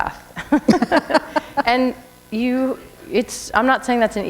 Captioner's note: laughter